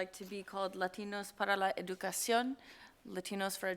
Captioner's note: speaking Spanish